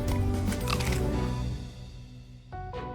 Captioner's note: crunching